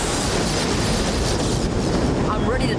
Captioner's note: thundering